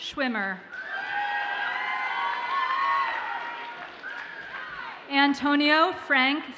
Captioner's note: audience cheers and applauds